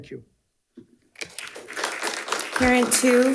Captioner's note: crowd applauding